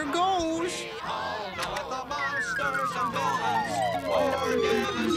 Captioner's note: beeping